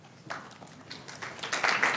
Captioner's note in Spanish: aplausos